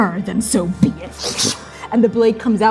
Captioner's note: fwooshing